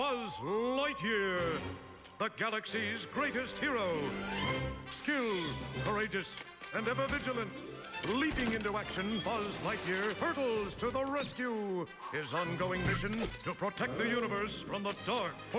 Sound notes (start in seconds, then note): none